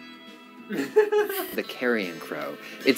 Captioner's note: laughter off camera